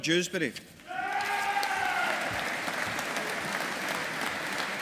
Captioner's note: audience applauding